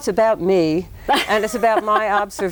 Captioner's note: laughs